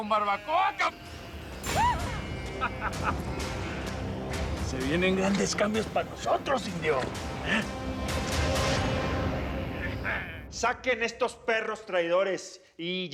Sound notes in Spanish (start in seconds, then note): 1.7 carcajadas